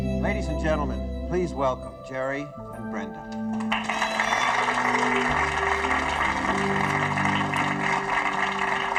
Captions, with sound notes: - Ladies and gentlemen, please welcome Jeri and Brenda. (audience applauding)